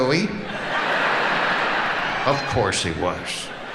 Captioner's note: audience laughing